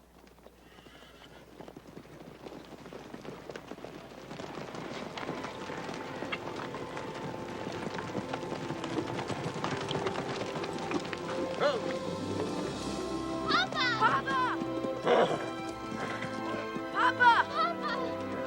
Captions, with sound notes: (horse neighs) (hopeful instrumental music) - Whoa! - Papa! - Papa! - Papa! - Papa!